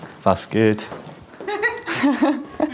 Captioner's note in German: Lachen